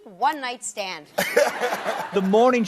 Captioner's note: laughter